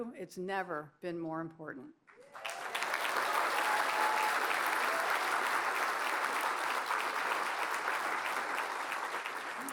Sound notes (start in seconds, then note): 2.1 cheers and applause